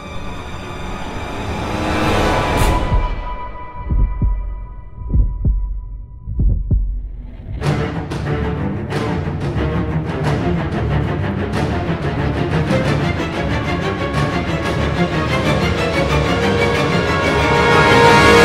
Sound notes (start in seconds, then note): 3.7 heartbeats; 8.5 frenzied music; 14.8 music intensifies